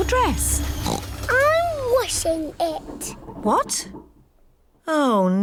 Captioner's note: oinks